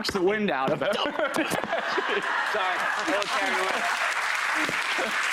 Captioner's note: laughs; audience applause